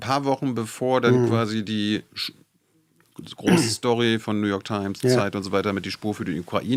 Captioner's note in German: räuspern